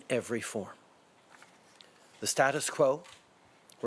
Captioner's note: speaking French